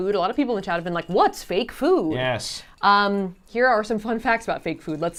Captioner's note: none